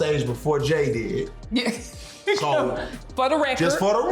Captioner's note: laughs